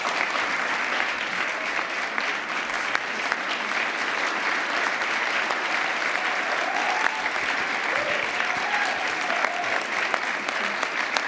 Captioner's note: applause